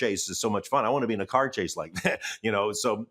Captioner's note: chuckles